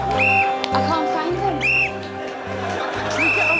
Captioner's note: blows whistle